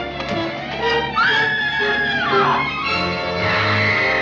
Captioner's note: scream